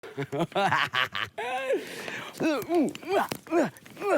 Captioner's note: laughing